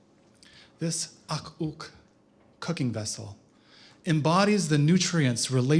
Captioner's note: non-english speech